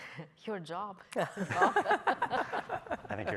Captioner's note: laughing